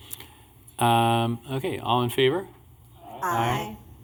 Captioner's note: chorus of ayes